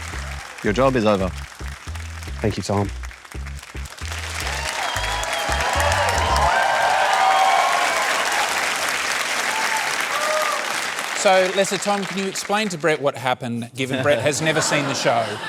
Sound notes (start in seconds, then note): 3.3 cheering and applause